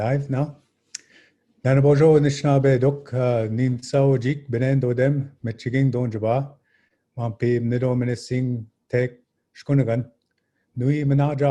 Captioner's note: speaking Ojibwe